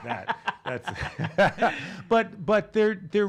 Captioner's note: laughing